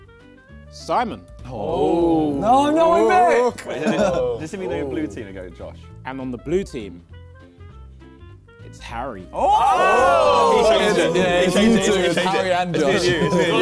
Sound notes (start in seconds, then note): 1.8 crowd booing; 9.5 crowd mumbling